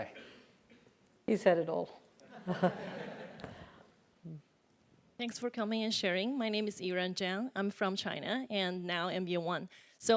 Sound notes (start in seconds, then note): 2.1 laugh